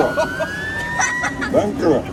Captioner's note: laughter